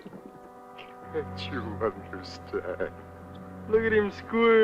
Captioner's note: worrying music; sobbing